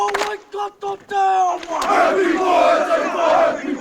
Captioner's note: hand claps to haka